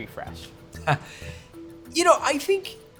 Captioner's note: laughs